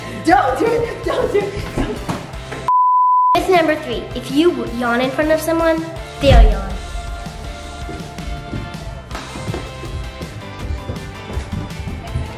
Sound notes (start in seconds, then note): 2.7 beep; 6.2 upbeat music